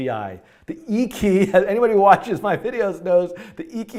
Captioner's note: laughs